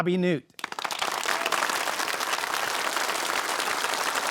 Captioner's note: audience clapping